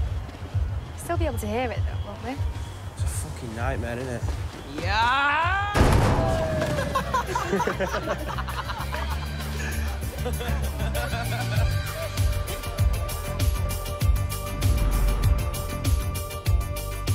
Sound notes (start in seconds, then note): 4.3 shouting; 6.6 laughter